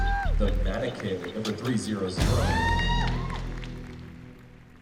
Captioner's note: cheering